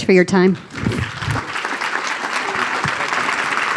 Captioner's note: applause